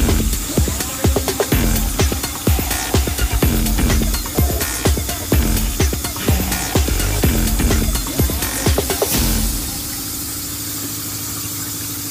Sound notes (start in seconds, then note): 7.1 machine spraying